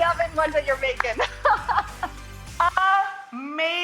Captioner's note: laughs